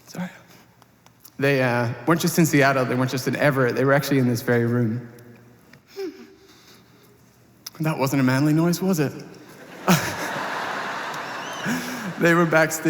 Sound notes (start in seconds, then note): 9.5 laughter